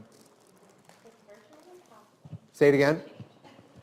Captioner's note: faintly speaking